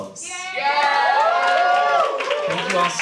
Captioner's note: cheering